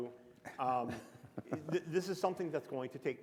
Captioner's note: chuckle